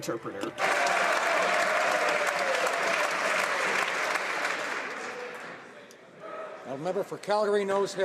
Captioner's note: some Applause